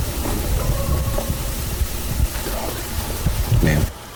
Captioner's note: coyote howls